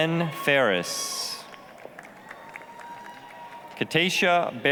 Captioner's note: applause, cheering